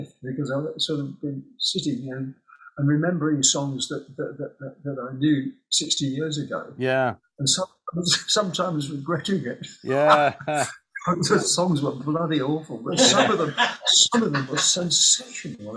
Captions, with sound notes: because I've sort of been sitting here and remembering songs that I knew 60 years ago. Yeah. And sometimes regretting it. Yeah. [HE LAUGHS] Some of those songs were bloody awful. But some of them were sensational.